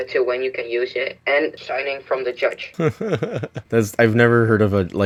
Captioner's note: laughs